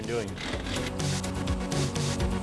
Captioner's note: gear shifter rattles